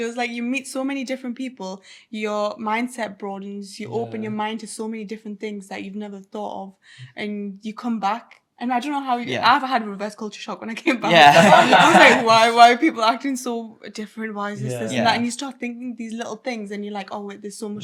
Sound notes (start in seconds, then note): 11.0 everyone laughing; 11.0 laughs